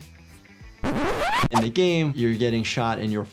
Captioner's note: record scratching